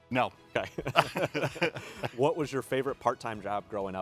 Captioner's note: both laugh